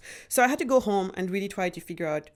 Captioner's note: none